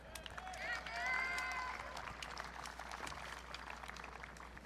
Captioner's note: audience cheering